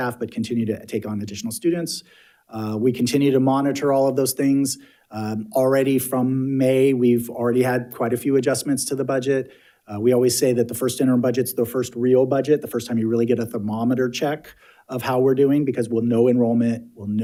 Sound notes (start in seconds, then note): none